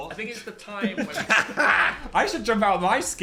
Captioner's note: both laughing